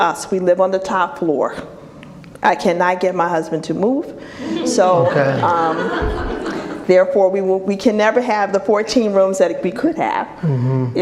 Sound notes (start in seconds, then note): 4.4 audience laughs